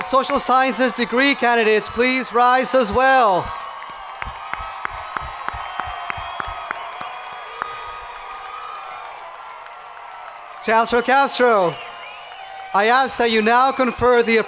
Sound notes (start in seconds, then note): 4.7 hands clapping; 4.7 people cheering